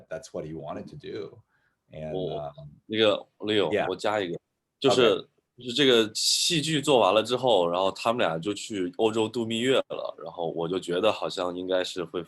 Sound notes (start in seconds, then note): 2.7 speaking in foreign language